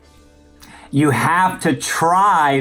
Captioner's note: countdown beeps